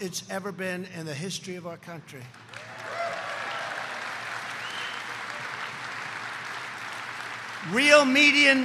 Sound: applause

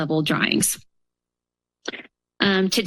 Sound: pause

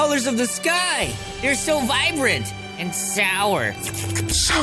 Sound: slurping sounds

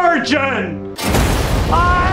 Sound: boom

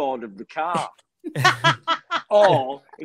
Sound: Shobna laughing

